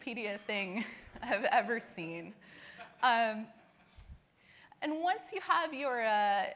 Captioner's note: laughing